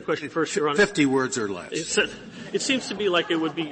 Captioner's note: laughter